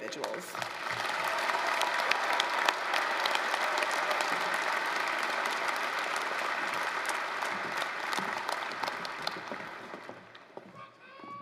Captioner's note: applause